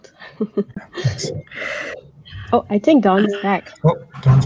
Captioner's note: chuckles